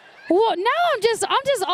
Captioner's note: laughter